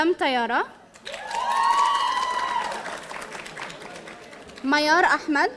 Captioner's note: audience cheering